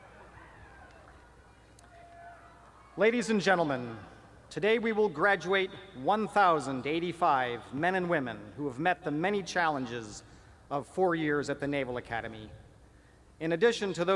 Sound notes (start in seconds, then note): 0.0 cheering